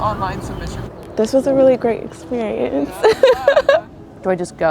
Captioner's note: laughing